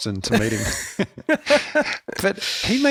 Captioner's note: laughs